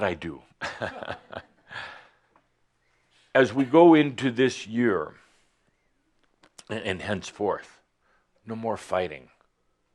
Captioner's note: Adamus chuckles